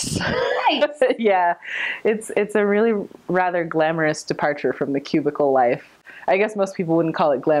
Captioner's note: laughing